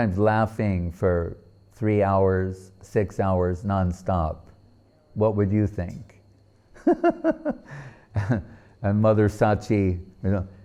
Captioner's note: laughing